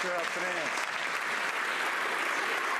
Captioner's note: some Applause